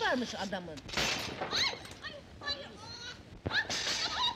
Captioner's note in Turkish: gürültü patirti sesleri̇; bağrişma sesleri̇